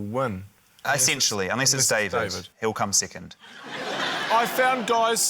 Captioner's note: laughter